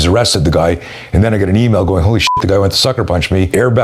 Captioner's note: beep